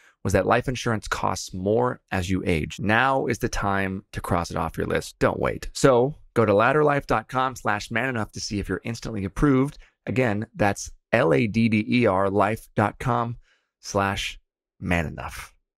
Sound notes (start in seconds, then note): none